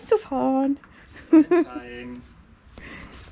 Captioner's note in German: lacht